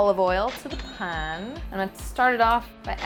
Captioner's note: cash register chimes